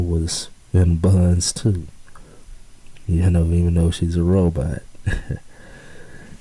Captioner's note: chuckles